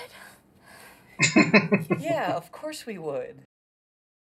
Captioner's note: laughing